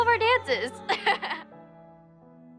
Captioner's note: laughs